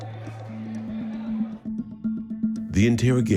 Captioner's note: people chattering